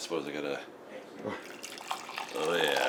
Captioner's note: coffee swooshes